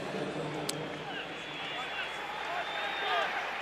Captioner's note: pa announcement